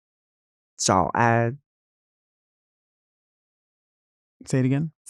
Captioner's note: Nymphia speaking in a foreign language